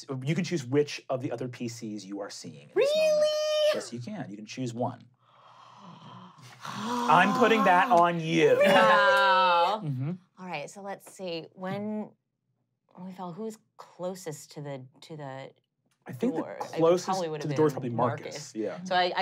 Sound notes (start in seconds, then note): 5.5 sighing